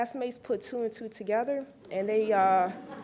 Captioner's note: laughs